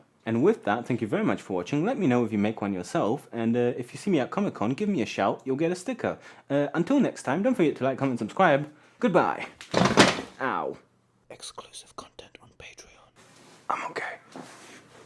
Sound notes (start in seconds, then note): 9.6 Mellow landing on floor noise